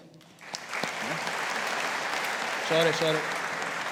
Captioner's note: audience applauding